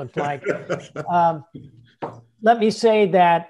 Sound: laughing

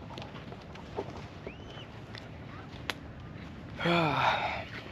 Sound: footsteps; sighs

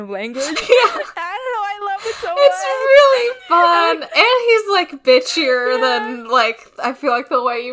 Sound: laughs

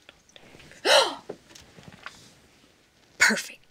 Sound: gasps

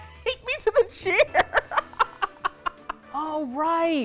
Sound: laughs

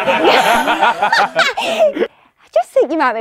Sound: people laughing

